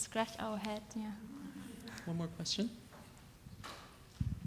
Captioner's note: audience laughs